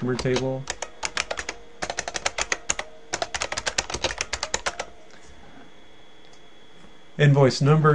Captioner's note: typing